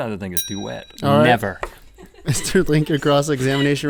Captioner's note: bell ding